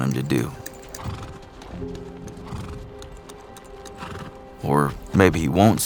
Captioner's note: horse snorting